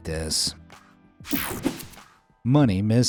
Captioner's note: graphics whooshing